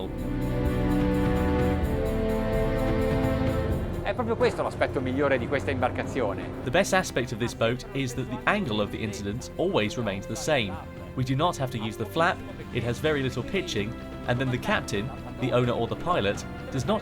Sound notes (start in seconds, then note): 0.2 dramatic music; 4.1 speaking foreign language